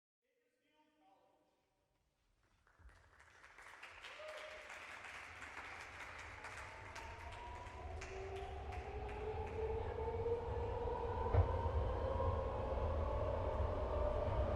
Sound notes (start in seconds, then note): 2.4 applause